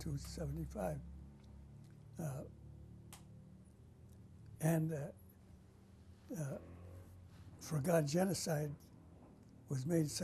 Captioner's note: pauses for 3 seconds